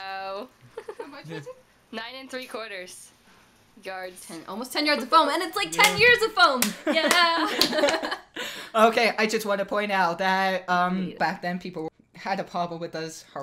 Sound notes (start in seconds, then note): 5.6 clap; 6.8 laughs